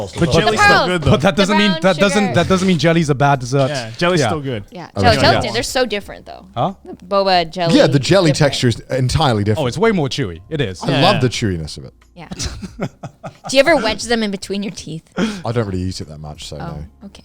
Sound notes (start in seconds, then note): 12.3 laughing